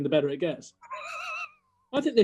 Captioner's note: sniggering